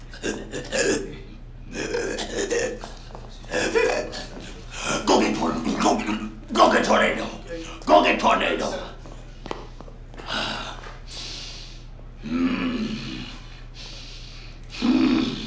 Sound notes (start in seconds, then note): 0.1 wheezing, growling; 10.1 breathing heavily